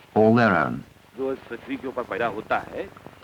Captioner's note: non-English speech